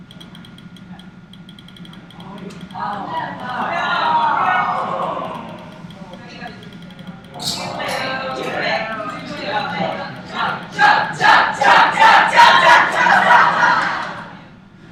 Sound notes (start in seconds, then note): 2.8 cheers and groans; 7.1 chanting; 10.3 more chanting